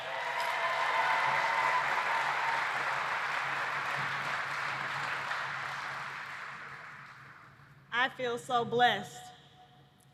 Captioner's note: applause